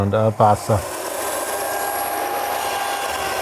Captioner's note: whirring